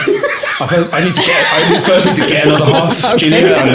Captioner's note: laughing